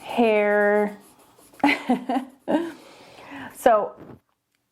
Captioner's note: laughing